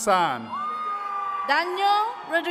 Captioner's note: attendees cheering